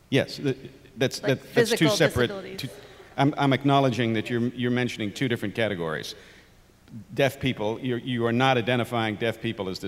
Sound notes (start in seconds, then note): 1.7 voiceover